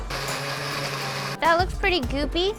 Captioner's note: blender buzzing